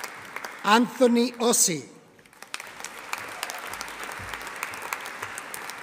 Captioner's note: audience applauding